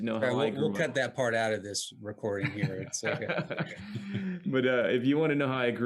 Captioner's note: laughs